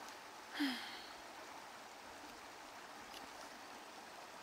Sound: water running; sighs

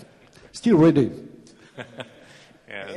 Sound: chuckles

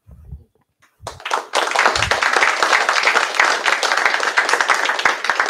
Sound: applause

